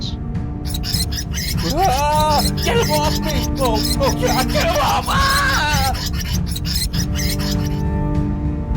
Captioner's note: rats squeaking